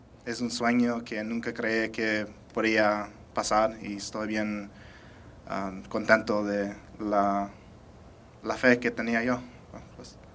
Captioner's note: speaking spanish